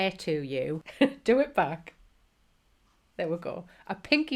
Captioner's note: chuckles